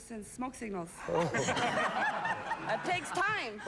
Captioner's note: laughter